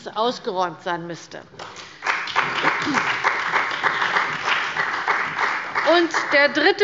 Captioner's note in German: Beifall bei der CDU und dem BÜNDNIS 90/DIE GRÜNEN